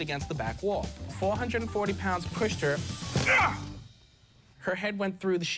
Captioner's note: man shouting